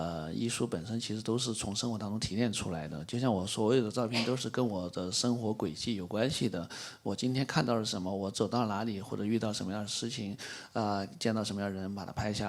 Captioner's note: speaks in Mandarin